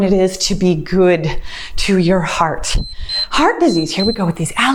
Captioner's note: timer beeps